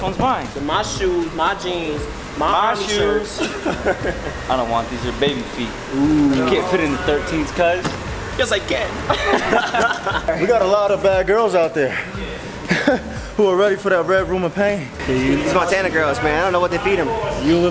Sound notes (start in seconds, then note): 3.2 laughs; 9.0 both laugh